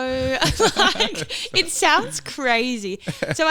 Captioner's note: laughing